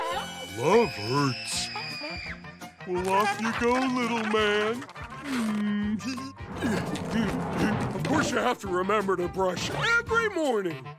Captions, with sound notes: Love hurts. Well off you go, little man. Mmm, tee-hee. [grunting] Of course, you have to remember the brush every morning.